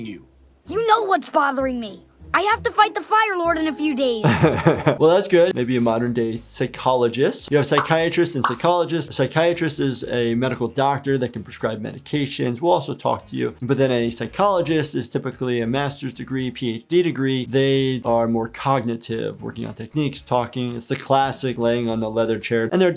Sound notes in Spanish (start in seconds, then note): 4.2 se ríe